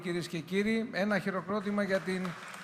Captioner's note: applause